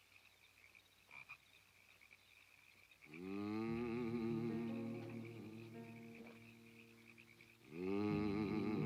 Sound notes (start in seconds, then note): 3.1 Mose humming